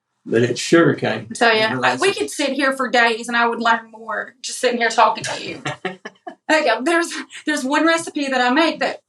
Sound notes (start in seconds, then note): 5.0 laugh